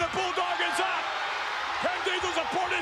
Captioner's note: spectators cheering